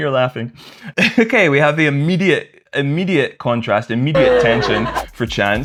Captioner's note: laughter